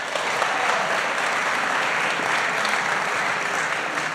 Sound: applause

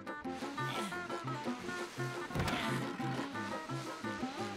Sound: grunting

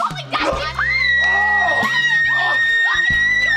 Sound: screaming

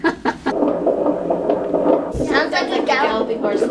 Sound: laughing; fetal heartbeat

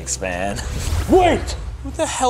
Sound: zapping

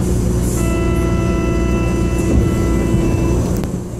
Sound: buzzer

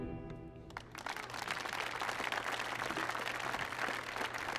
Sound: audience applauding

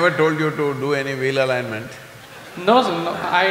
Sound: laughter

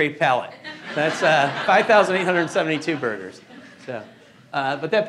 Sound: laughing

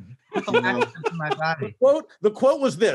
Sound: man laughing

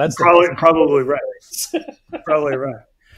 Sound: laughing

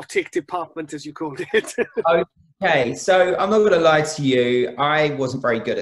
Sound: laughs

